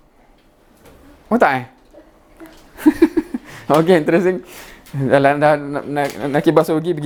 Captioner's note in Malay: ketawa